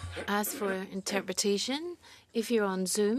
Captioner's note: speaking in French